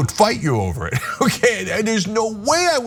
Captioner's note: laugh